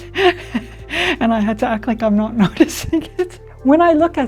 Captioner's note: laughs; laughs